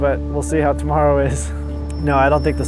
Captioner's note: chuckles